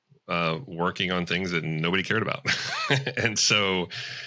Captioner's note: chuckles